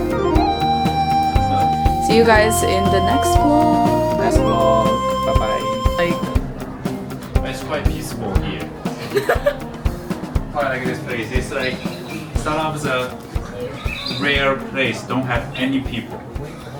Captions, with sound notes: see you guys in the next vlog next vlog bye bye it's quite peaceful here (laughing) quite like this place it's like some of the rare place don't have any people